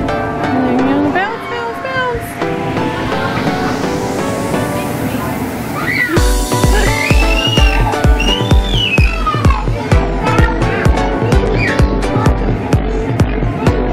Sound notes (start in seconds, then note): 6.6 chuckles